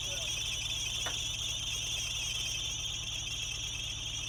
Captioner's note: van engine screeching